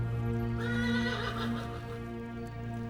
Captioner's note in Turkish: Müzik - Gerilim; At kişneme sesi